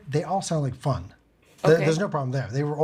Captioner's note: none